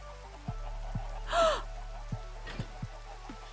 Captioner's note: gasp